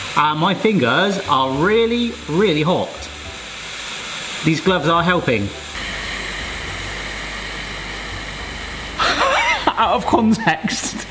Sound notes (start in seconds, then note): 6.0 steamer hisses; 9.0 laughs